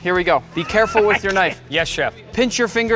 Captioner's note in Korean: 웃음